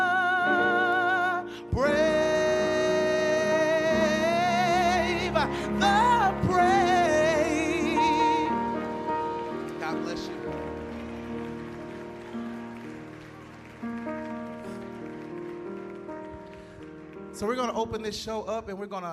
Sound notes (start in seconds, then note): 9.6 applause